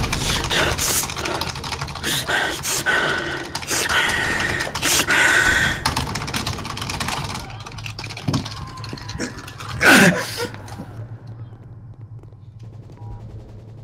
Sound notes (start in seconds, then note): 0.0 anxious breathing; 8.4 screaming in the background; 8.4 moan